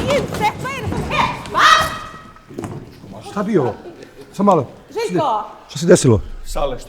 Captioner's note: shouting and banging